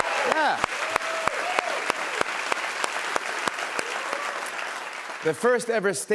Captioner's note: cheers and applause